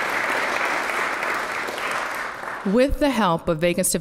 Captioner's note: applause